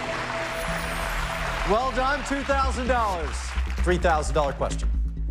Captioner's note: applause